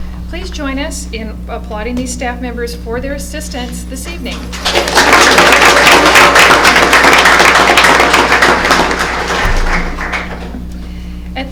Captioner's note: applause